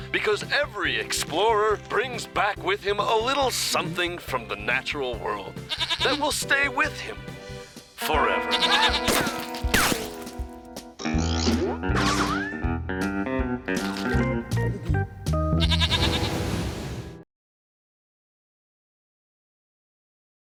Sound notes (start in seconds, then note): 5.6 bleats; 8.8 screaming; 15.5 bleats